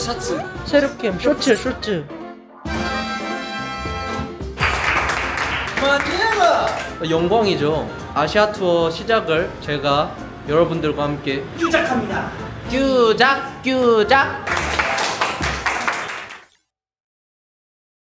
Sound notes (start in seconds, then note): 4.5 applause